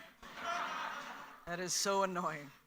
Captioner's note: audience laughing